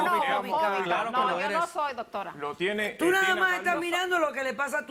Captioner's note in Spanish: Hablan al unísono